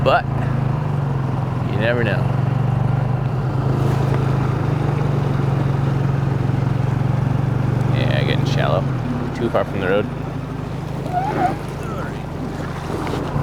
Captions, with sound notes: But you never know. (motor burbling) Yeah, getting shallow. Too far from the road